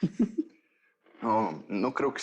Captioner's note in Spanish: Risas